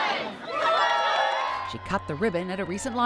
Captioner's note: crowd cheering